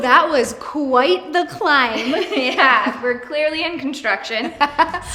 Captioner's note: laughs